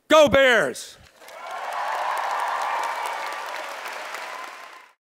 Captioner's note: applause